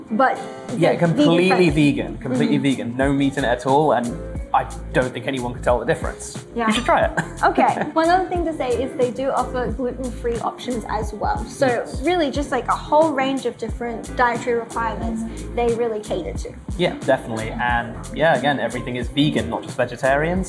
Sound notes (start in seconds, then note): 6.9 laughs